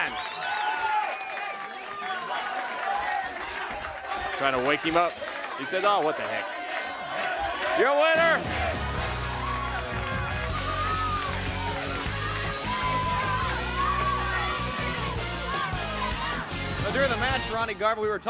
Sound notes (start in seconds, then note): 0.0 crowd cheering; 5.3 crowd cheering